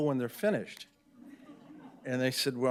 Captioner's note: audience laughing